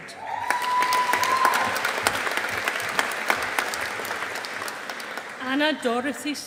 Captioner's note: audience applauding